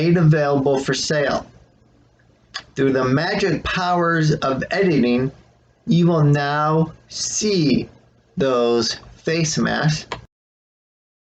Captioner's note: click